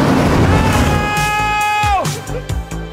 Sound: yelling

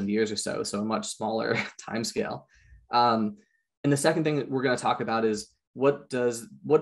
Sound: chuckles

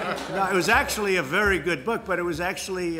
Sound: laughter

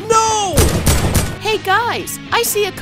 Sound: gun bangs

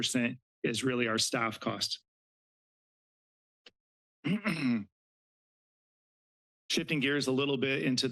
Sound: clears throat

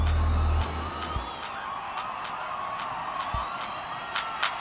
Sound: cheering

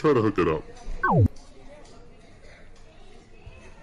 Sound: buzzes

